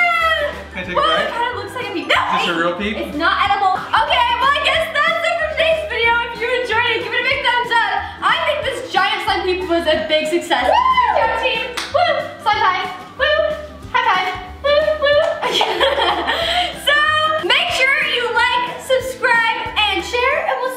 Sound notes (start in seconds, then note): 14.6 laughs